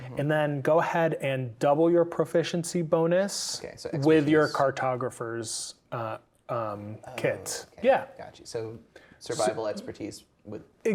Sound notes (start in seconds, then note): 5.3 speaking quietly